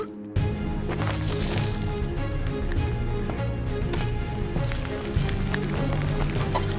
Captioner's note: dramatic tense music; Asher groaning